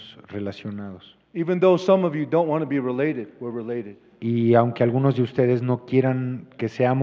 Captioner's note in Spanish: Expositor habla en inglés